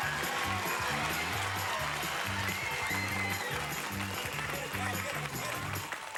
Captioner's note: audience applauding